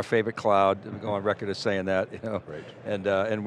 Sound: laughs

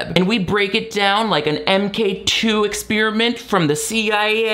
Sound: none

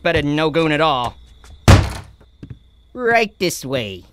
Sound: slam

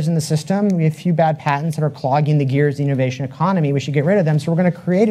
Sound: none

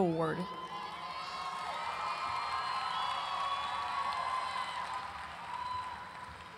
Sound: audience cheering and applauding

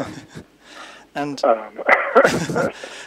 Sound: laughs

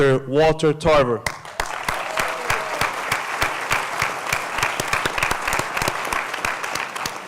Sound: applause

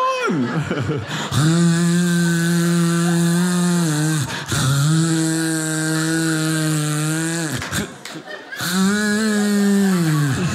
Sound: snoring sound; audience laughing

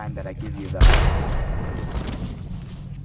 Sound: gun Shot

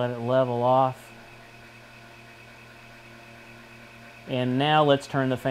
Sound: whir of fan

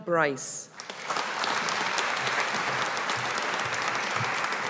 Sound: audience applauding

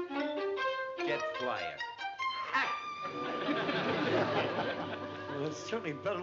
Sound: playful music; scoffs

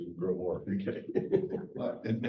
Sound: chuckle

